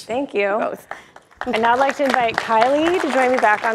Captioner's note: public applauds